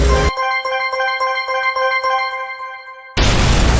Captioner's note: chime ringing; explosion booming